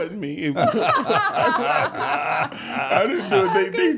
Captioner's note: all laugh